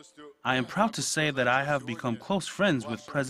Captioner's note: uzbek